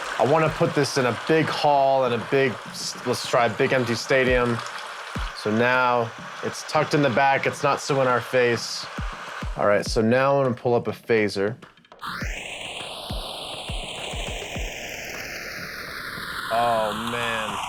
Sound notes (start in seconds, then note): 12.0 phaser sounds